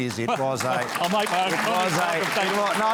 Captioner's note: applause